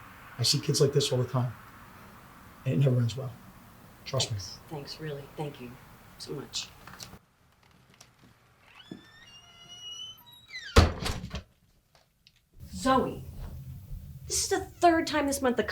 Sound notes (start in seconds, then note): 8.5 door hinges squeaking